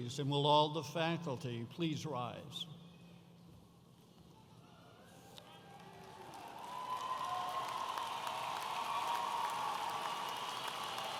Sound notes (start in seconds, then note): 5.6 audience applauding